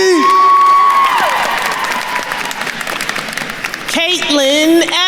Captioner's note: attendees cheering and applauding